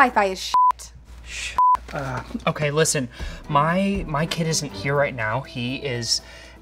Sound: beep

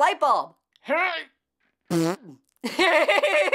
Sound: grunts, farts; laughs

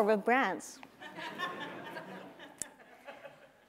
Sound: laughter

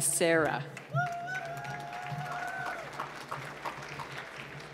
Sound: applause

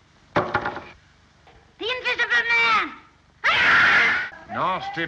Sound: screams

